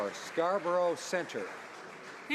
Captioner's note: some Applause